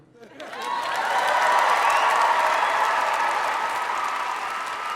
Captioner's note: audience applauding